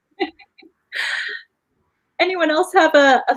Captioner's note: laughing